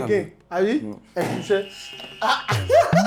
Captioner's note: buzzer sounds; laughs